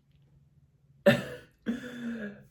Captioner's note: giggles